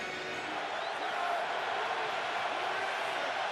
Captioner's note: crowd cheering